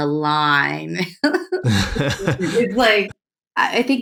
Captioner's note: laughter